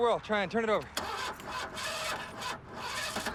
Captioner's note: motor rattles